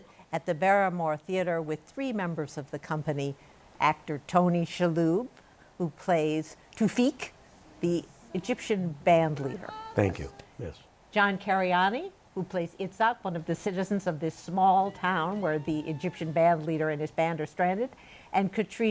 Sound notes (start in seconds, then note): none